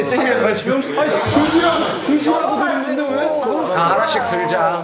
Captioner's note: all chattering about a chestnut